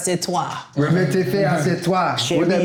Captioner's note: speaking in French